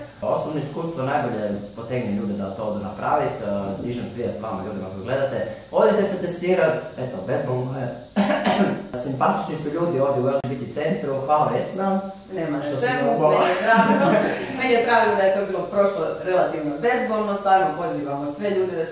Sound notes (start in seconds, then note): 8.2 ahem ahem